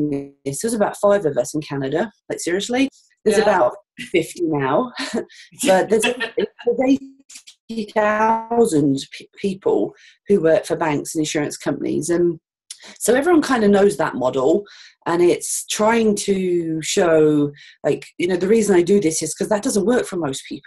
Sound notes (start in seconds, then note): 5.6 audio skips 0:08:03